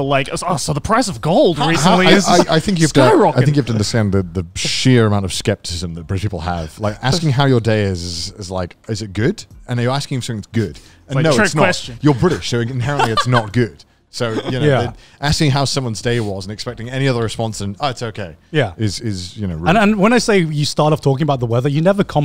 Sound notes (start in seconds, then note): 12.8 laughs